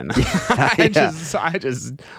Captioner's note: laughing